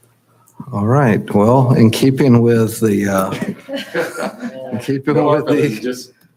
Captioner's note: chuckles